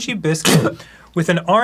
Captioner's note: arin spits loudly to interrupt dan